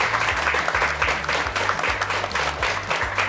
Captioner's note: applause